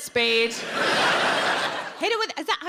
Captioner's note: audience laughing